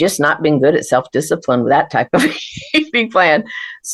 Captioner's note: laughs